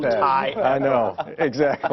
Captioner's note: laughter